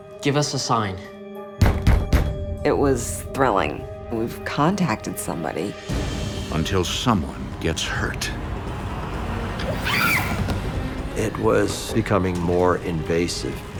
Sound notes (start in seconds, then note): 1.5 heavy knocking; 9.7 Cindy screaming